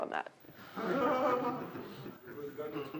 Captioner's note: laughter